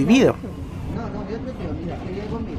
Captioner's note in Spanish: sonido ambiente y viraje del bus